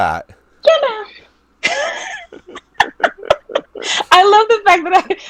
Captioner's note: both laughing